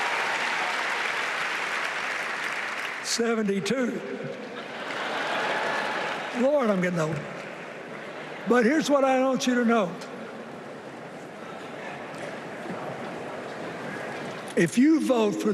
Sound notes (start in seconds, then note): 9.5 applause